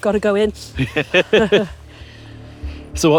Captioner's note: chuckles; laughs